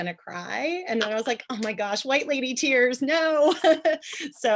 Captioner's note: chuckle